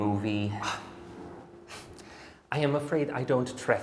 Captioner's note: Weiss exhales